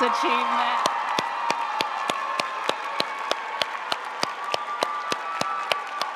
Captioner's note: audience cheering and applauding